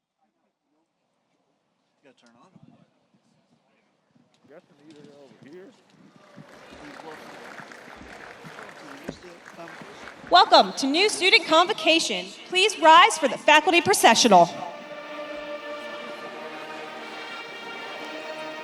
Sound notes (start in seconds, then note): 6.2 audience applauds; 15.4 orchestral music